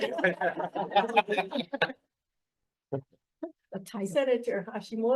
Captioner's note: people laughing